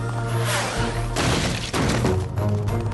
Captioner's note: crash